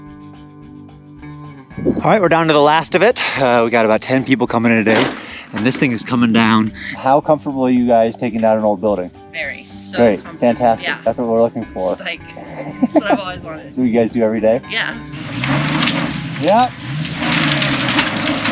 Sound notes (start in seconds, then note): 12.1 laughs; 14.7 car revving; 15.1 squeaking